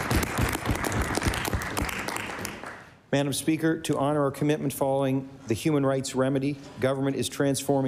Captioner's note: applause